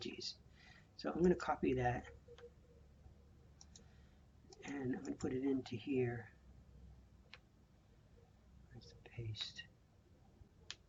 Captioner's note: typing